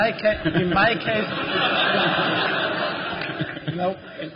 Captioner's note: laughter